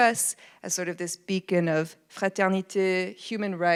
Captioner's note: speaks in foreign language